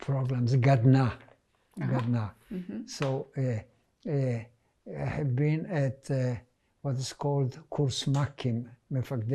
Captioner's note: hebrew